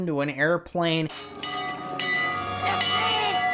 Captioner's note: bell